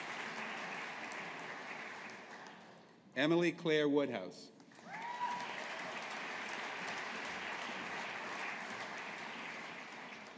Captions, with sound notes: Emily Claire Woodhouse. (AUDIENCE APPLAUDING)